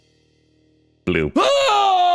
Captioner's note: aaaaaaaaugh!